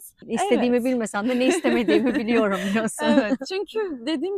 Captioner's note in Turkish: kahkaha